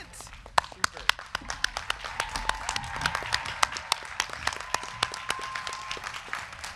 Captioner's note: crowd clapping; crowd cheering